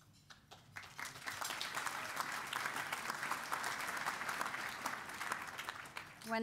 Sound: applause

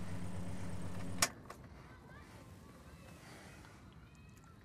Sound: turns off ignition

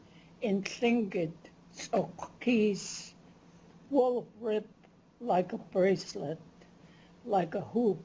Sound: non-english

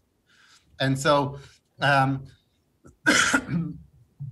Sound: coughs

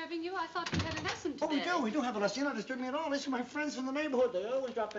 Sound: none

